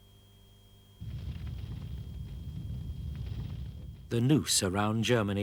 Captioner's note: fire crackling